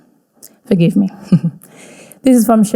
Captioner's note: chuckles